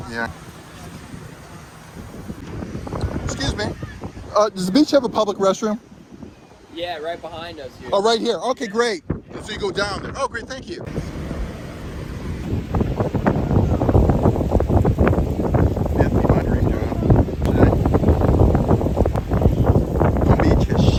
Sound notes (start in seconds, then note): 10.8 waves lapping; 11.5 wind whistling; 18.9 wind whistling